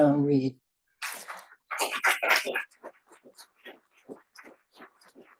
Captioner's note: audience applauds